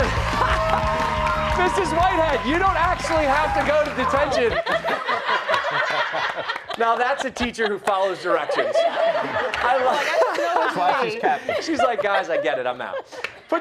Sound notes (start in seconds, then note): 6.5 laughter